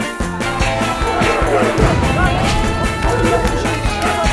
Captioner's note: villagers all arguing with each other; upbeat music still playing